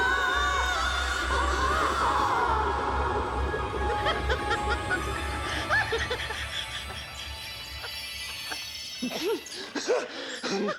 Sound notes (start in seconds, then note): 3.9 laughing; 9.6 gasping